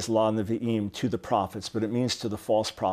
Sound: speaking in Hebrew

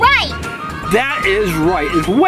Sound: voiceover

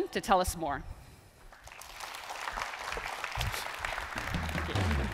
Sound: applause

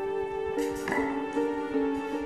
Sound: wooden spoon clatters

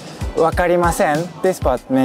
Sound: speaking in Japanese

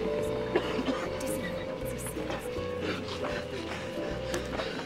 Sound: coughing; gasping

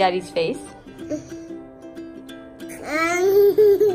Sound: giggles

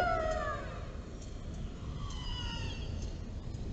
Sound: whales singing

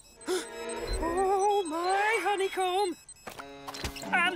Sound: gasps

